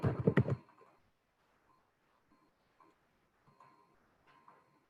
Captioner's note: keyboard tapping